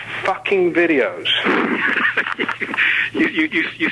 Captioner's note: both laughing